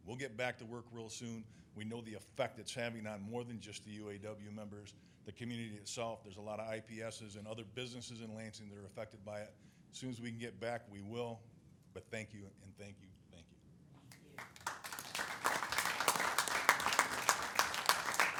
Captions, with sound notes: We'll get back to work real soon. We know the effect it's having on more than just the UAW members. The community itself, there's a lot of IPS and other businesses in Lansing that are affected by it. As soon as we can get back, we will. But thank you and thank you and thank you. (people clapping)